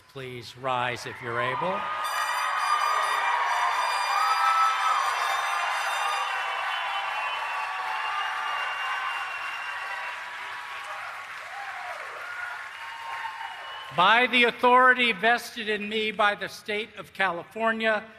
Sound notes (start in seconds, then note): 3.6 applause